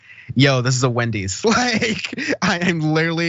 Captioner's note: laugh